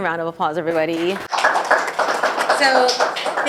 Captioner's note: audience applause